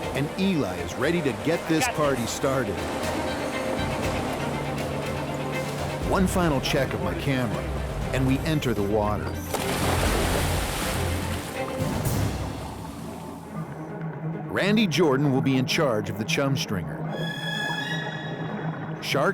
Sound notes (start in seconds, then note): 9.6 water splashing; 17.0 suspenseful orchestral music